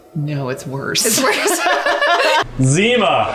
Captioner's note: laughing